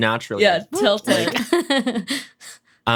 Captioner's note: laughs